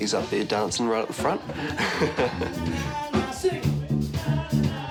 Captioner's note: chuckles